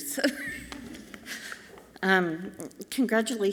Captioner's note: chuckles softly